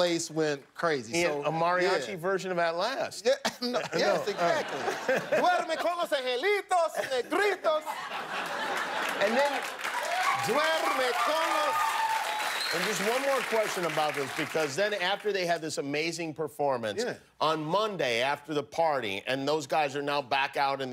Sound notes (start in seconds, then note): 11.4 speaking spanish; 15.0 cheers and applause